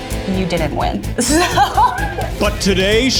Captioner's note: laughing